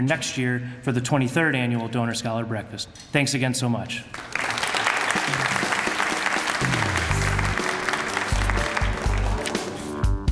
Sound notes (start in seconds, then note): 4.1 applause